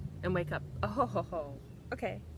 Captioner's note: laughs